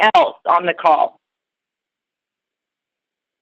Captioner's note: silence